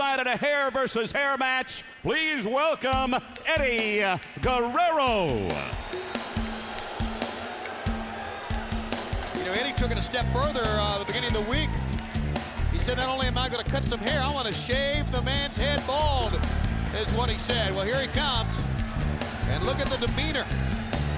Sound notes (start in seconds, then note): 5.2 smooth music; 6.5 audience cheers